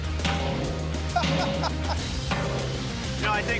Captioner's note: laughs